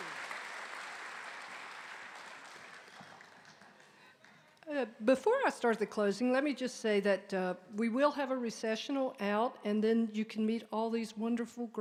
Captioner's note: applause